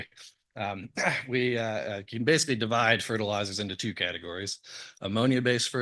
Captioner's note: cough